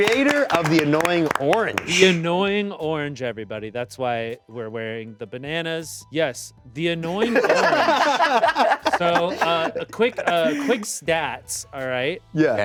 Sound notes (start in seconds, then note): 7.0 all laughing